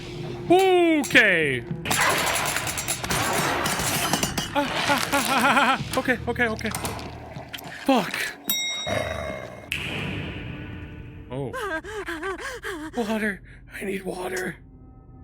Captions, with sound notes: Oookay! (gun fires) Ah! Ah! Ah, ah, ah! Okay, okay, okay. Fuck! (bell dings) Oh. (Matilda panting) "W-water... I need water!"